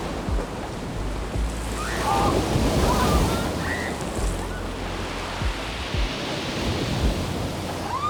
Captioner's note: wind blowing